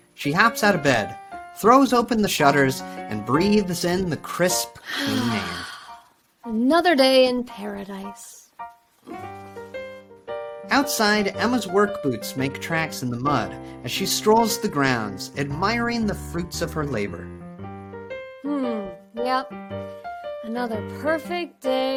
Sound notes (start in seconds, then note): 4.8 Emma exhaling loudly; 9.3 gentle upbeat music